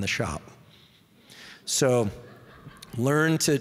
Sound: audience laughing

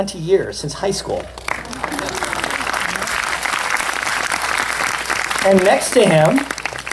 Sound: applause

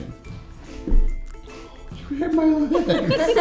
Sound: fist clinks; giggles

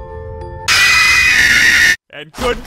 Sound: screams

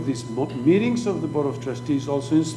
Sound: speaking foreign language

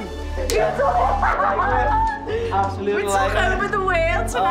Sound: laughing

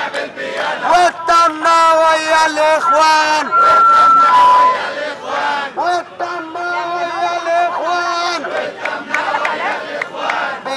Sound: chants; chants

